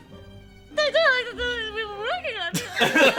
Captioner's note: angry crying speech